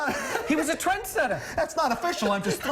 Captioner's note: laughter